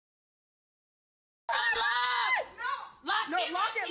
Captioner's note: screaming and yellling